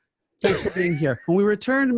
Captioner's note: laughing